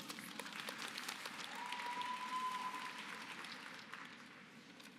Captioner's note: applause